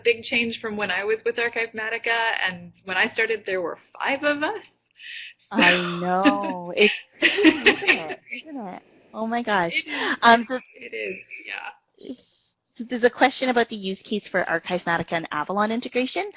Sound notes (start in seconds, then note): 5.5 laughs; 8.4 laughing